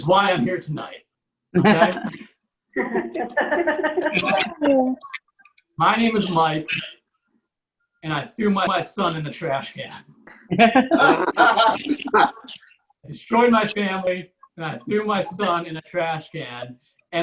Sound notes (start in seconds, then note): 2.8 audience Laughs; 10.7 audience Laughs